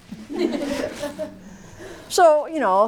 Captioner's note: laughter